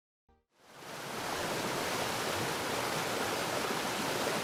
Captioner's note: water falling